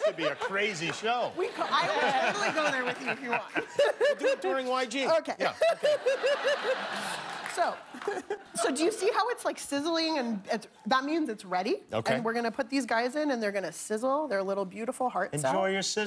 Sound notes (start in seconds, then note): 8.8 laughter